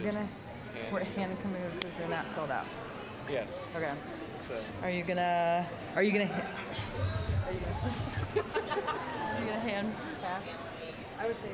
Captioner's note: general chatter